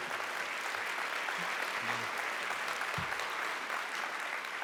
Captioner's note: applause